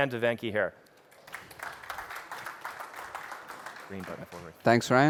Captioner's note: applause